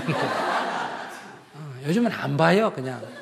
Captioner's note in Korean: 청중 웃음